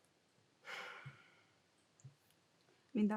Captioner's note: Brandon sighs